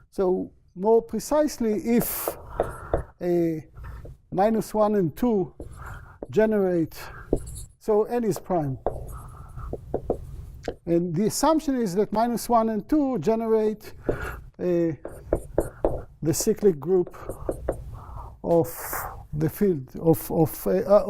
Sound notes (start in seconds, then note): none